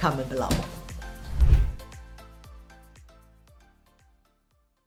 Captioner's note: atmospheric swish